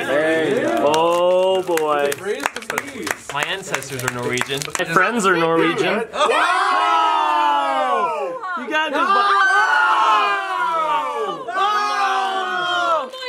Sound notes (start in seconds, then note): 6.1 cheering